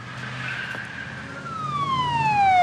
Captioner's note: siren wails